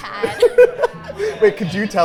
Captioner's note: both laughing